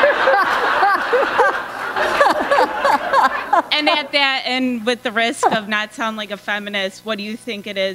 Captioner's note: laughter